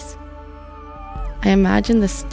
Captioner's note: dogs whining